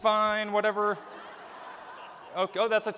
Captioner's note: laughter